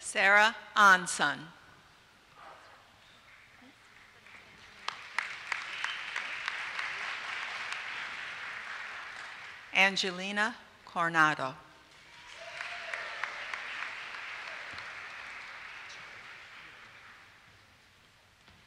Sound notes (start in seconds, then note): 3.2 applause; 11.9 applause